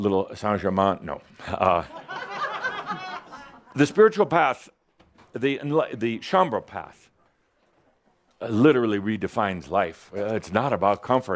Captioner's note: some giggles